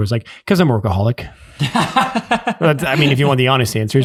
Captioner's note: innocent laughing